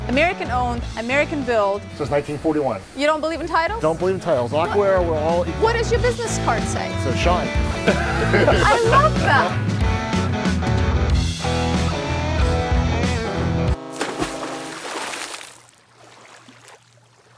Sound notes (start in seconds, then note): 7.4 laughs; 10.0 rock music; 13.8 water splashes